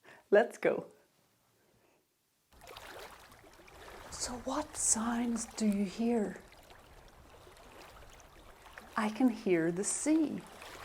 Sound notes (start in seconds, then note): 6.3 sounds of waves splashing